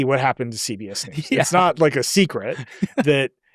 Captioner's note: laughs